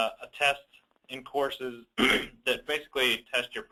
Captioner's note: clears throat